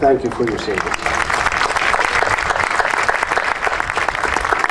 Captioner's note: audience applauding